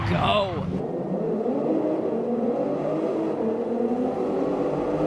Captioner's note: engines roaring